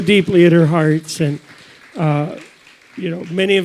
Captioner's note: audience applauds